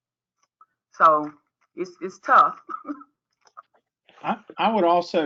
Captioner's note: laughs